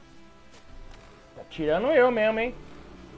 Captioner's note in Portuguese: indignado